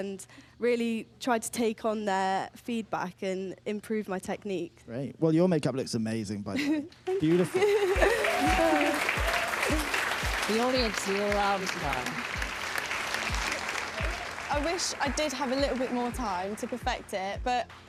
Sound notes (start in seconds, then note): 8.9 cheering & applause; 13.3 applause